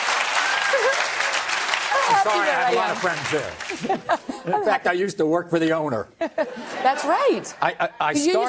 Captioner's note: applause